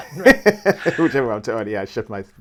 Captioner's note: laughing